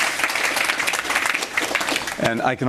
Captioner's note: applause